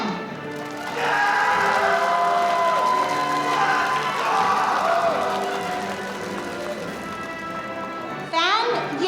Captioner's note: applause